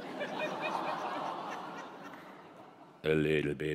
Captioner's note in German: Lachen